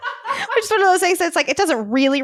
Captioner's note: laughter